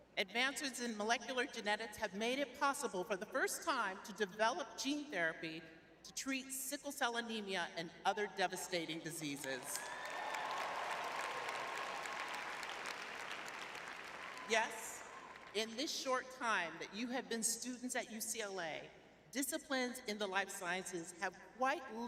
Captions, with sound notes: Advances in molecular genetics have made it possible for the first time to develop gene therapy to treat sickle cell anemia and other devastating diseases. [audience cheering] Yes, in this short time that you have been students at UCLA, disciplines in the life sciences have quite